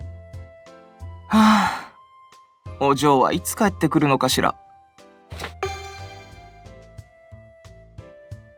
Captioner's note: sigh